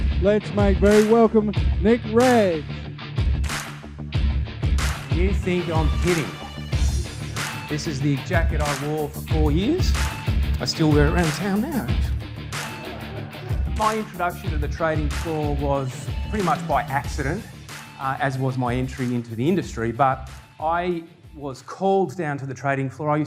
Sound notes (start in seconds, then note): 3.1 intense rock music; 12.6 crowd laughs